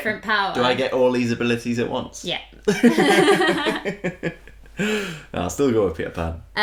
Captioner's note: laughter